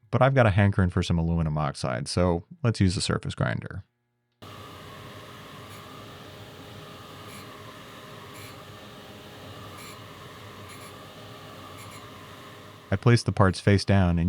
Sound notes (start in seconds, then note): 4.7 machine whirring